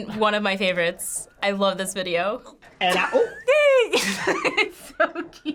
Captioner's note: laughs